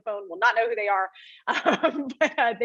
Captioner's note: laughs